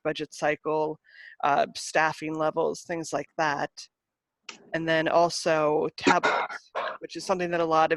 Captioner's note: coughing in the background